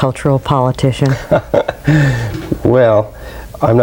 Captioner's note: laughs